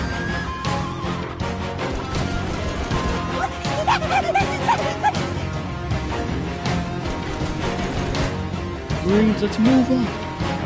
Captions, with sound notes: [Gunshots] "Marines let's move up!"